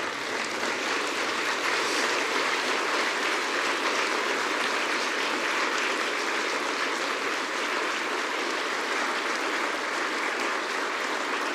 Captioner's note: applause